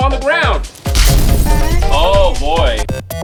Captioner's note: explosion